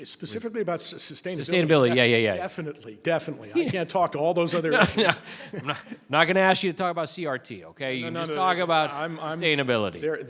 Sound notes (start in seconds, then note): 4.5 laughs